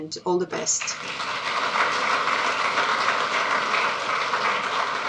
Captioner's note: audience clapping